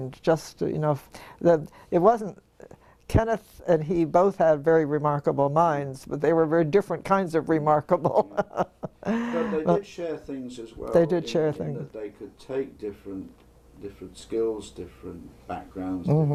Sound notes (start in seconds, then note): 8.0 laugh